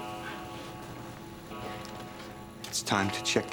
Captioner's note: bell tolling